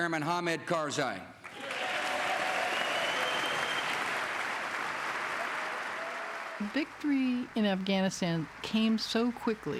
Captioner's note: cheers and applause